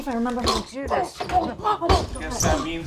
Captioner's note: groaning